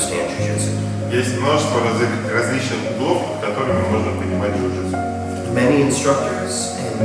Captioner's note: speaking in a foreign language